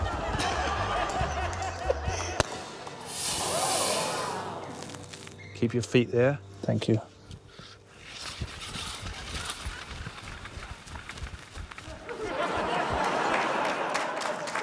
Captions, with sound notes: (CHUCKLES) (CORK POPS, CHAMPAGNE HISSES) - Keep your feet there. Thank you. (LAUGHTER)